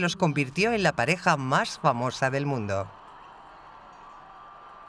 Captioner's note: crowds cheer